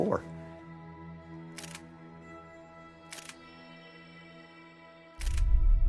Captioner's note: camera clicking and music playing